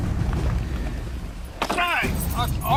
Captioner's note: car door slamming